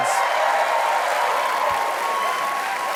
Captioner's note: cheers and applause